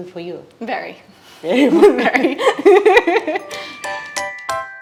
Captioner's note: laughing